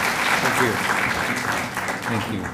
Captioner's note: applause